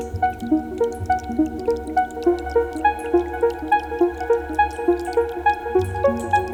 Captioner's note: ethereal music; liquid pouring